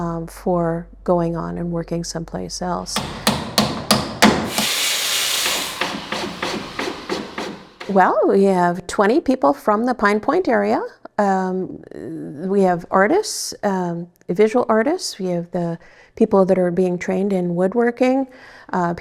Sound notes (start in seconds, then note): 2.8 hammer banging; 5.0 saw whirring; 6.2 drill whirring